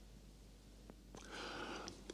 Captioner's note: sigh